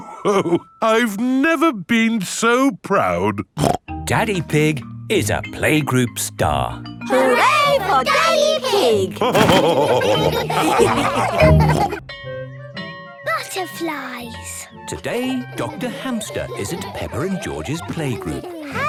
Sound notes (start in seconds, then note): 3.6 snorts; 9.9 all laughing